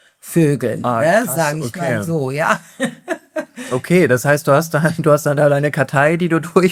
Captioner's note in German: gelächter